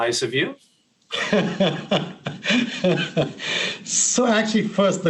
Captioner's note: laughs